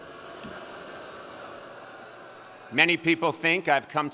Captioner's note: audience booing